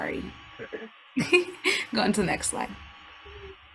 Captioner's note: chuckles